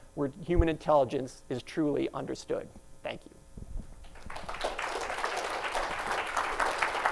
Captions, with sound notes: where human intelligence is truly understood. Thank you. [APPLAUSE]